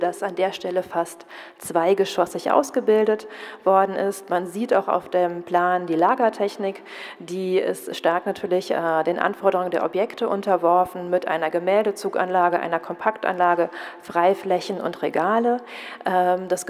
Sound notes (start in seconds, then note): none